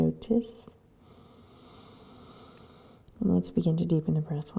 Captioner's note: inhaling